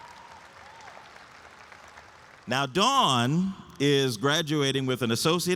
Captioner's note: audience applauds and cheers